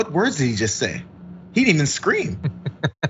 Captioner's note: laugh